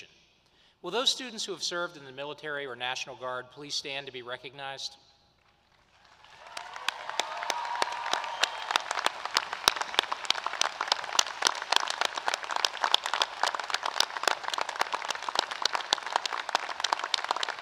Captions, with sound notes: Shaun Harper. [ Applause ] This week, we are graduating 25 students who have served our country as members of the military or the National Guard. Many of them served overseas. We recognize the challenges and hardships of going overseas and then transitioning back home to